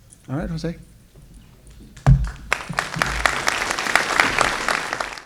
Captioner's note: applause